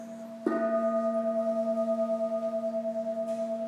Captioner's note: gong rings